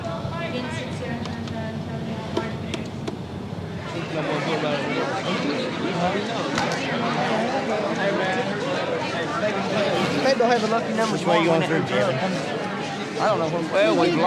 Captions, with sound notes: [chatter] - Maybe I’ll have the lucky numbers… - Which way you going through Kevin? I don’t know…